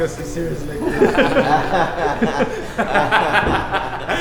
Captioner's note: chuckles